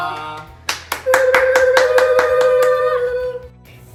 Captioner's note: all cheering